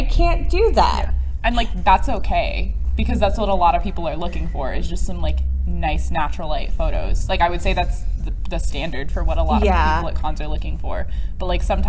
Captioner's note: whispering